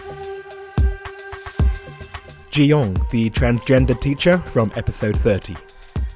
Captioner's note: voiceover